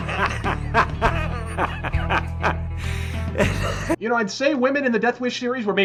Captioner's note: sigh